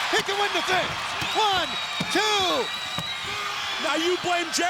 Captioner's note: fist smacking